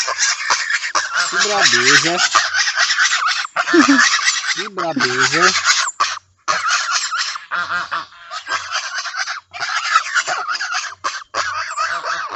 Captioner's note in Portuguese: risadas